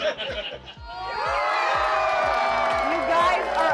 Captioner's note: judges and audience members laughing; crowd cheering